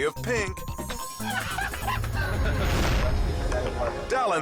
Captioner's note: person laughing